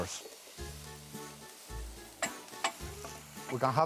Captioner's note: sizzling